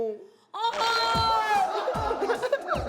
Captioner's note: gasp